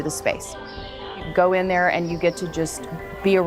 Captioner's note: birds chirping